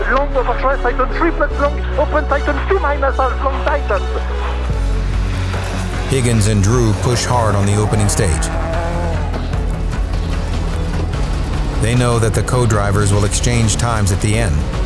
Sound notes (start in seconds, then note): 9.8 engine roaring